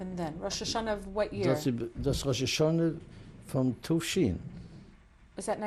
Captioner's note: non-english